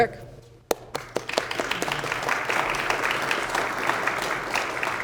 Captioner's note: all applauding